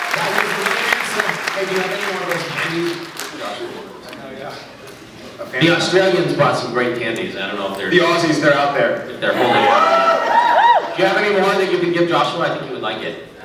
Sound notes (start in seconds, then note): 0.0 applauds; 9.2 scattered cheers